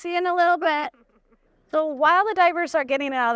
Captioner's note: chuckles